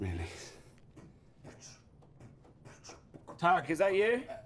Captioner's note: beatboxing and footsteps